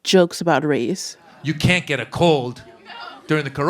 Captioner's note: soundbite of archived recording